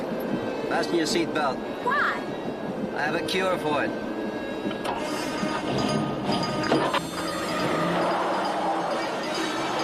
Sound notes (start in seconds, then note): 5.1 engine revving